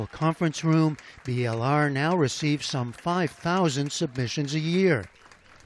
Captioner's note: applause